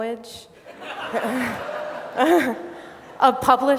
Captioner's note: laughter